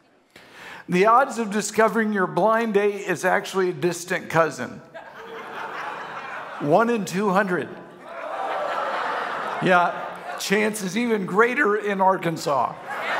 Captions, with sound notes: The odds of discovering your blind date is actually a distant cousin? One in 200. (congregation laughing) Yeah, chance is even greater in Arkansas, right?